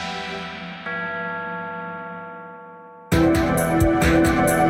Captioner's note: bell tolling; suspenseful music